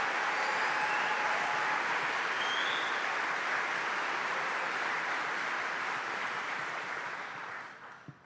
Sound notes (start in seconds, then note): 4.0 applause